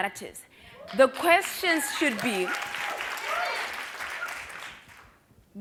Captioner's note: applause